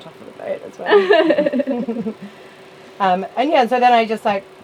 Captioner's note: laughs